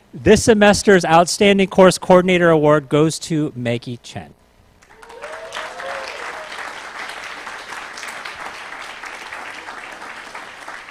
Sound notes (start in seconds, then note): 4.8 applause